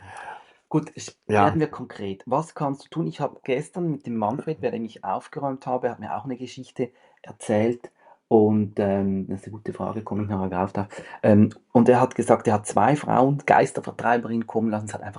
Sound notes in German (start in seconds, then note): 0.9 schnauben